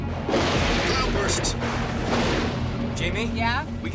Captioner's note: thunder claps